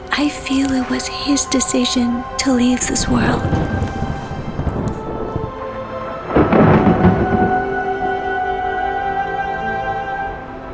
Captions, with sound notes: I feel it was his decision to leave this world. (ethereal orchestral music) (thunder claps)